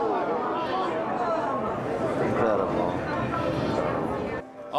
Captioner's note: crowd murmuring